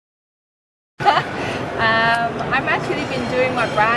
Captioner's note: laughing